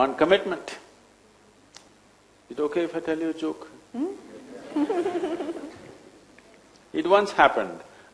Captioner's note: few laugh